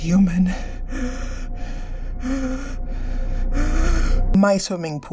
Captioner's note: heavy breathing